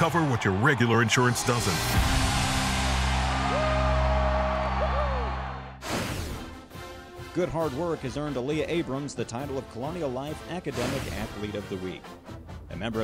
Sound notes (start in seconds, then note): 2.2 cheering; 5.9 whooshing